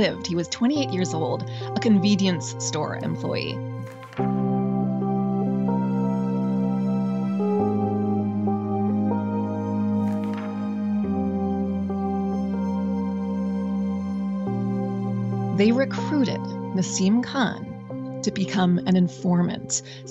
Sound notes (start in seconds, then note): 3.7 slide flips; 5.2 gentle music; 10.0 slide flips; 11.9 gentle music